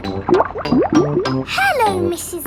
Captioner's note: bubbling